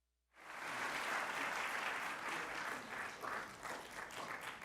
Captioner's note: audience applauds